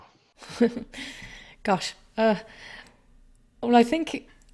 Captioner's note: chuckles